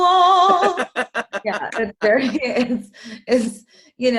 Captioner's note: laughs